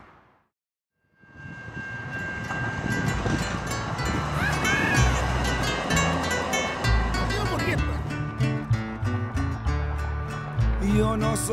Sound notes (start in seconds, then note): 1.2 bell dinging; 10.2 man singing in spanish